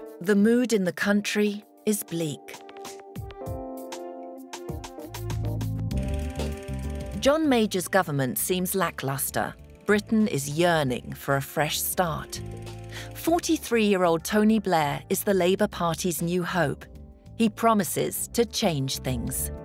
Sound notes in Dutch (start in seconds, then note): 6.0 projector zoemt